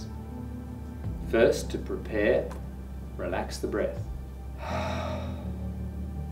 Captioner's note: exhales